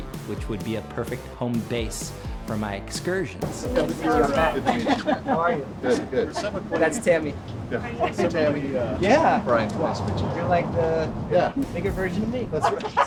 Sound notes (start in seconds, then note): 3.4 people laughing